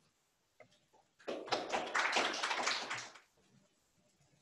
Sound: audience clapping

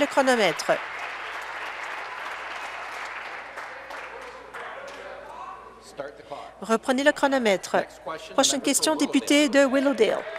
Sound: applause

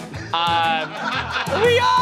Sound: laughter

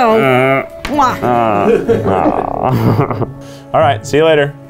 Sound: laughing

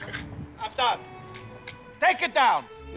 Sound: clapping

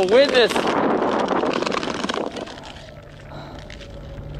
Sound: heavy breathing

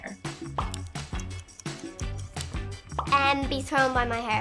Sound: timer ticks

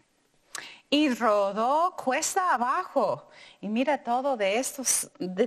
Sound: speaking in foreign language

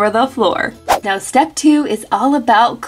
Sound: swishing

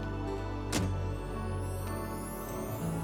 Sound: door shuts

